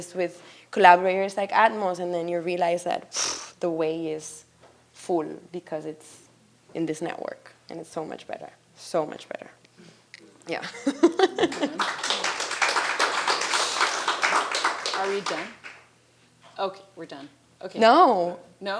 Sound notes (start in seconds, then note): 10.6 laughs; 10.9 attendees applauding